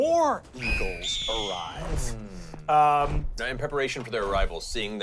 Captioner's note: eagles shrieking